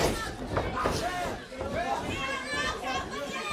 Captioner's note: crowd chatter